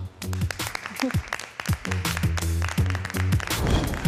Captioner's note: vibrant music; applause